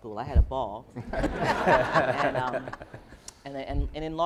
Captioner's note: laughing